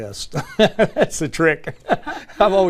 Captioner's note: laugh